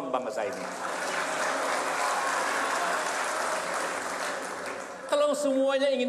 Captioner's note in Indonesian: tepuk tangan